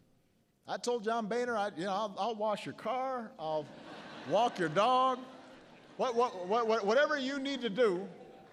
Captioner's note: laughter